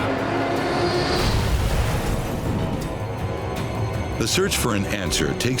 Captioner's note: aircraft exploding